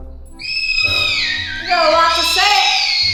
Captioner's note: screaming